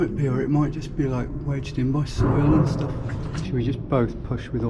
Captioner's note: manhole thudding